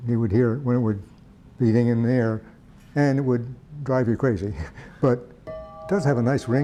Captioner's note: ding